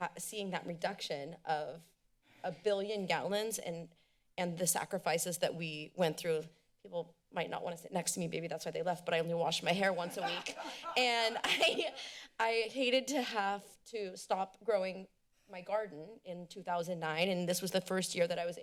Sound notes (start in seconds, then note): 10.0 laughs